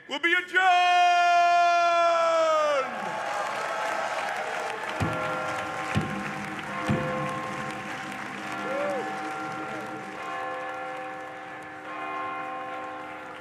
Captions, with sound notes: will be adjourned! (audience cheering) (audience applauding) (bell tolling) (cane thumping echoes) (bell continues tolling)